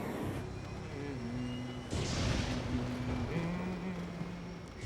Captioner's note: humming